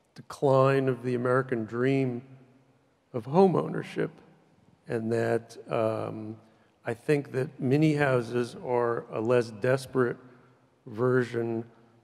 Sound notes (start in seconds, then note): none